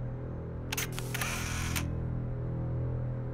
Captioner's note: camera click